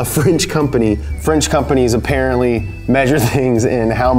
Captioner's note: chuckles